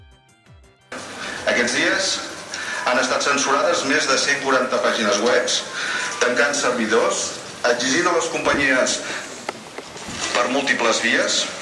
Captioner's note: live radio news